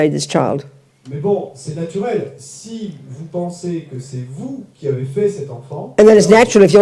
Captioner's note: French